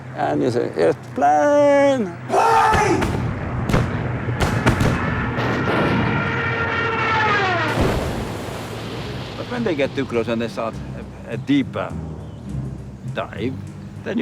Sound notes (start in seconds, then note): 2.5 gunshot fire; 7.0 airplane explodes